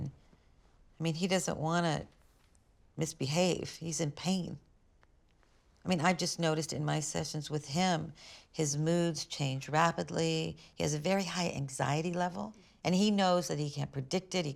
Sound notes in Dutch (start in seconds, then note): none